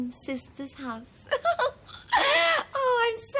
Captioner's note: giggles